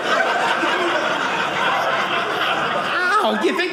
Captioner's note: audience laughing